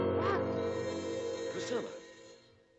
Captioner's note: Priscilla gasps